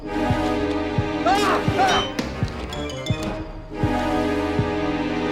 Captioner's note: Vincent yells